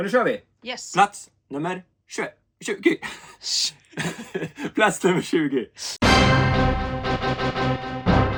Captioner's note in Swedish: skratt